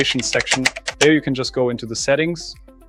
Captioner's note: keyboard clicking